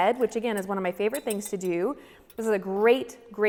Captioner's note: none